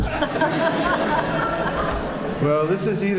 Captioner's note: laughter